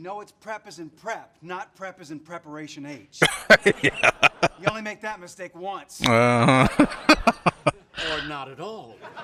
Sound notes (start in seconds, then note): 3.2 laughing; 6.0 chuckling